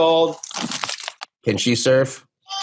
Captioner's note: crushing sound